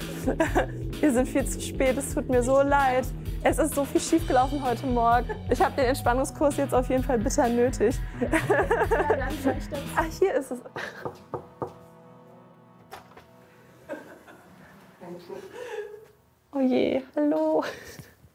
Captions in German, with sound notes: Wir sind viel zu spät, es tut mir leid. Es ist so viel schiefgelaufen heute, ich habe Entspannung jetzt nötig. Dann da rein. - Ach, hier ist das? *leises Lachen im Raum* Oh je, hallo.